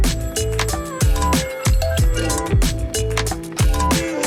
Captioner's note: phone rings